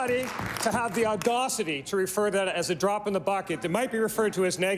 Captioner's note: applause